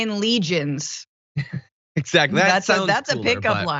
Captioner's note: laugh